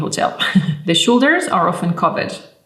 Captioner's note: chuckling